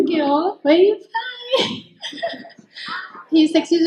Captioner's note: laughs